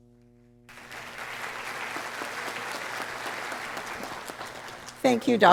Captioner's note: audience applauding